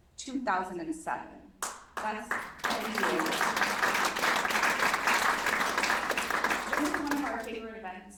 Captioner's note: applause